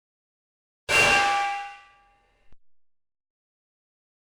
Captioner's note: metal clanging